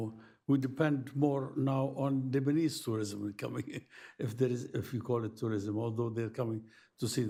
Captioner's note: laughs